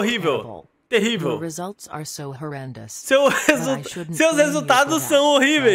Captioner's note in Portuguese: risos